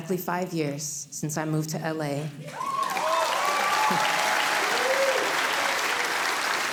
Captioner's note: audience cheering